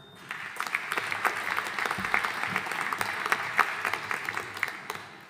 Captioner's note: audience applauding